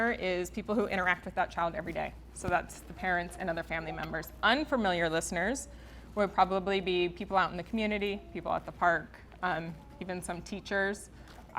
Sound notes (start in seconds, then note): none